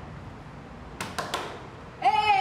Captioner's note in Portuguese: luiza batendo na porta